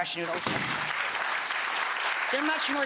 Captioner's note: audience applause